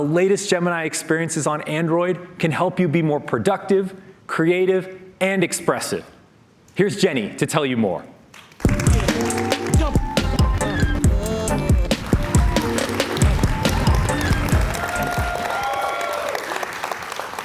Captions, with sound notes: latest Gemini experiences on Android can help you be more productive, creative and expressive. Here's Jenny to tell you more. [ Cheers and Applause ]